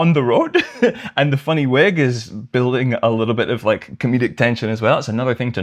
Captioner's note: laughter